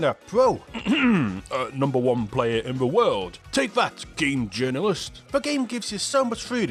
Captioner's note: cough